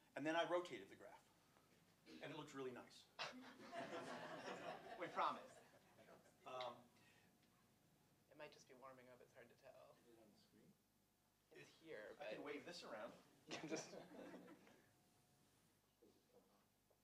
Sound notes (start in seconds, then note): 3.2 laughter